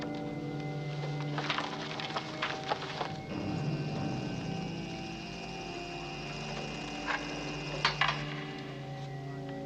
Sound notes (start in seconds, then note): 0.5 rustling of papers; 3.3 humming